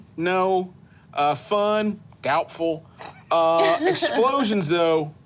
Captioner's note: laughing